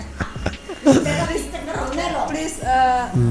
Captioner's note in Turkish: kahkaha